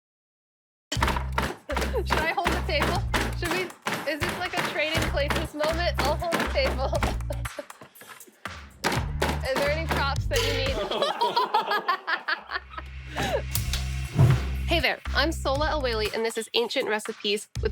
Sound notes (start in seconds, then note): 0.9 pounding; 10.7 laughter